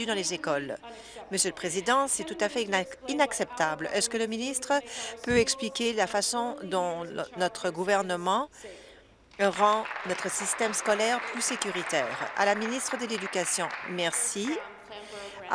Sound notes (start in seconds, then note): 12.9 applause